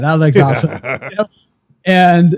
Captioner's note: laughs